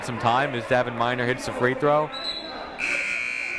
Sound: whistle blowing

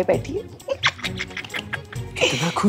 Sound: laughing

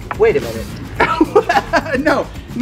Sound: laughs

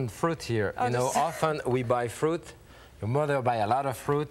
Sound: chuckling

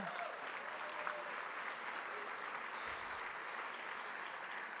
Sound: audience cheers

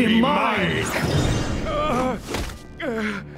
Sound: grunting

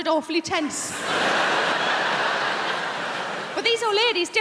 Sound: crowd laughing

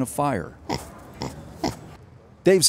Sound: pig snorts

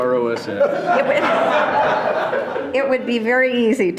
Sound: loud laughing

